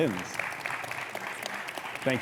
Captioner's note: audience applauding